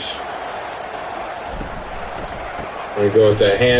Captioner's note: crowd Noises